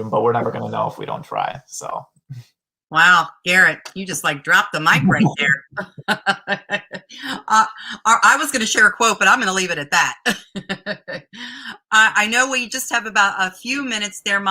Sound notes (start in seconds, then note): 5.7 laughter; 10.2 laughter